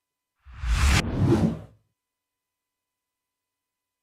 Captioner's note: text whooshes